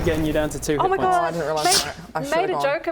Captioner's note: slash